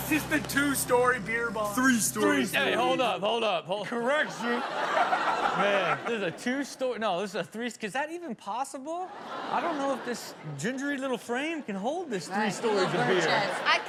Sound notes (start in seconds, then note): 3.8 audience laughs; 4.0 laughs; 9.0 audience laughs